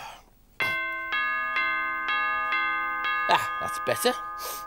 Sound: door bell ringing

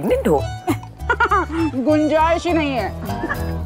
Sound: Poonam laughs; Sheena laughs

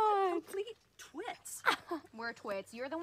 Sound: group chattering

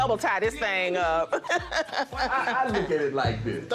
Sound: laughs

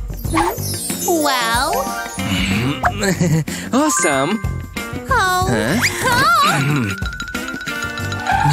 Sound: groans; making happy sounds

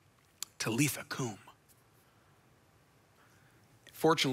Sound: speaks in foreign language

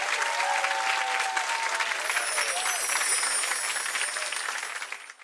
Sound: audience cheering

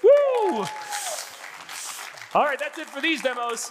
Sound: audience applauding

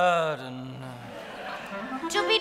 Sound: audience laughing

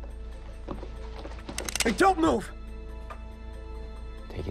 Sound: gun cocks

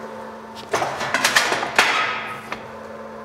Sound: metal clanking

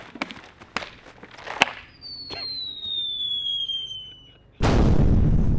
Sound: ahhhhhhhhhhhhhhh

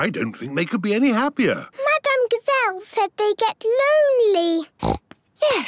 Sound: snorting

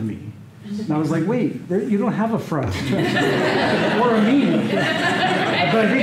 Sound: laughter

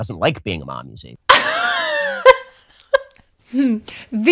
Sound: laughter

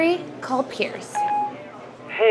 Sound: beeping

